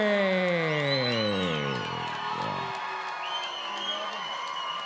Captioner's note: audience cheering